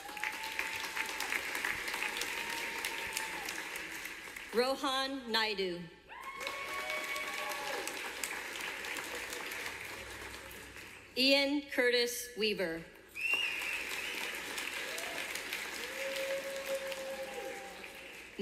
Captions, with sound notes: (Cheers and clapping from audience.) Rohan Naidu. (Cheers and clapping from audience.) Ian Curtis Weaver. (Whistling and clapping from audience.)